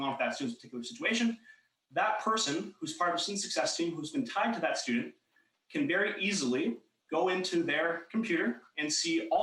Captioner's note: talking fast